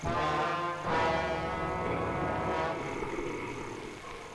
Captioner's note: Cheetah growling